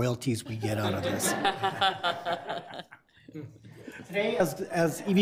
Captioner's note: laughter